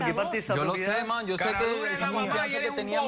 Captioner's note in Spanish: Hablan al unísono